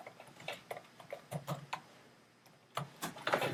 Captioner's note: typing on keyboard